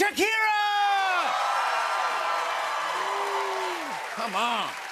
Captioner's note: cheers and applause